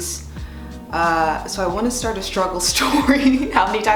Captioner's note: laughs